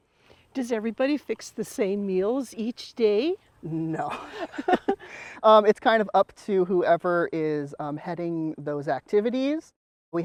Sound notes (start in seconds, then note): 3.8 laughs